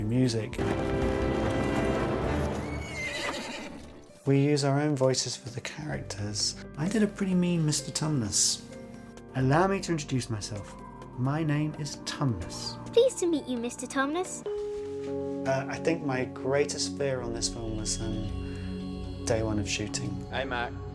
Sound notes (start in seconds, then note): 0.0 dramatic music playing; 2.3 horse neighing